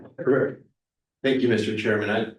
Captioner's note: clears throat